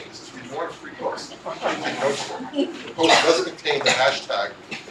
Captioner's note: laugh